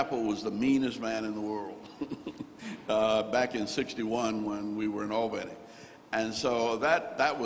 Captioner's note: chuckles